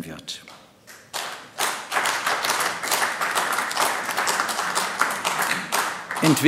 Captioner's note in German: Beifall AfD